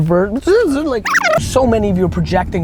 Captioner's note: tape rewinding; buzzing